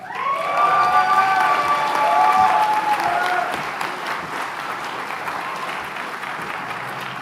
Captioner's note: applause